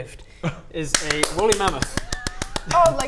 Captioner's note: thrilled applause